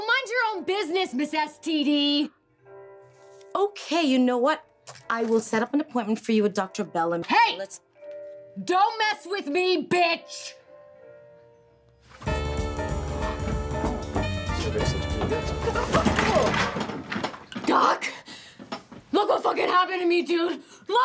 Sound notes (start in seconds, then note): 18.2 woman gasps